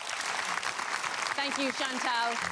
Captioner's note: audience applause